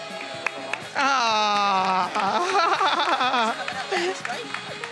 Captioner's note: attendees cheering and applauding; laughing